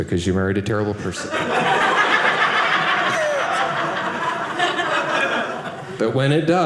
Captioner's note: audience laughing